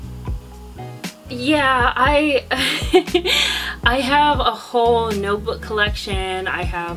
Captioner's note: laughs